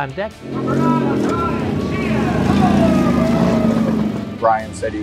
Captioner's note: engine rumbling